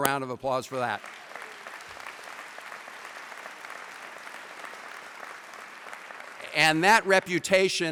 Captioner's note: applause